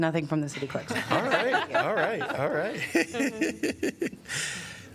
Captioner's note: laughter